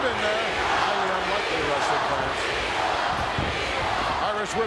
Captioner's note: crowd chanting; gorilla speaks faintly